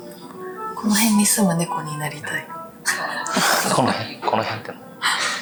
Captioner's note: laughs